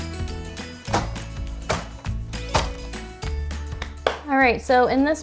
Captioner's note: nail gun popping